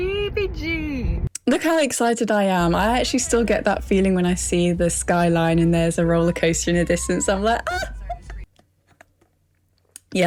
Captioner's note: squeals